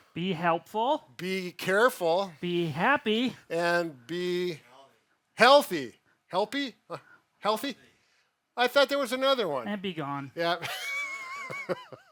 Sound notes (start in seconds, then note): 10.7 laughs